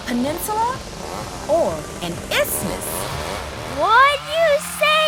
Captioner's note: chainsaw buzzes